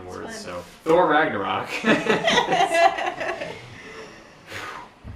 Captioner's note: laughs